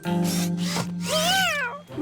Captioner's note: meowing